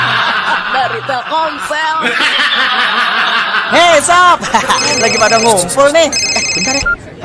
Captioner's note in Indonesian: tertawa